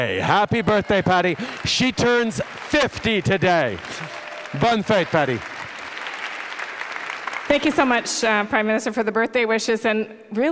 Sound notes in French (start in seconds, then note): 4.1 Applaudissements